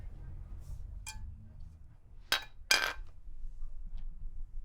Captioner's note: pieces rattling